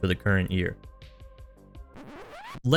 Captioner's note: record skips